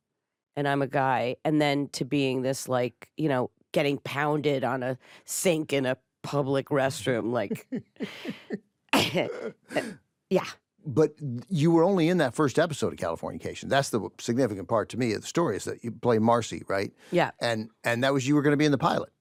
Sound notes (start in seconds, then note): 9.0 laughs; 9.0 chuckles